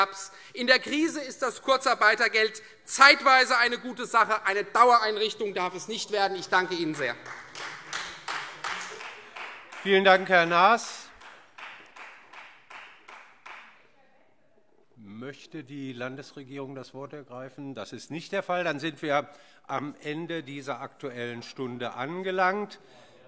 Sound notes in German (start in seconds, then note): 6.7 Beifall Freie Demokraten